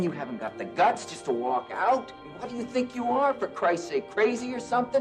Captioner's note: muffled laughter